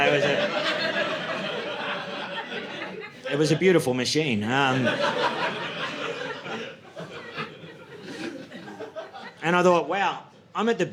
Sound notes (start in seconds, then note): 4.6 audience laughing